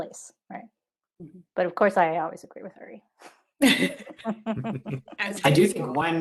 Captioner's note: laughing